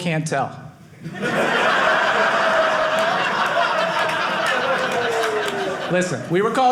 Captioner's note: audience laughing